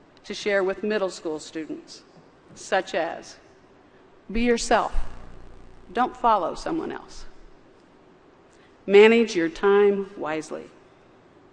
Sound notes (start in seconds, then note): none